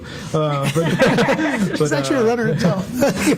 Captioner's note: laughter